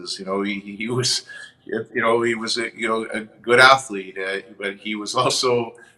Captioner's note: chuckles